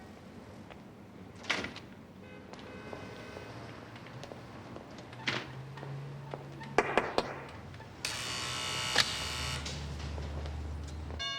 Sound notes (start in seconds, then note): 1.5 door clanks; 6.8 glass knocks; 8.0 buzzer buzzes